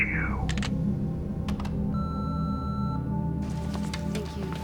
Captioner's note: clicks and beeps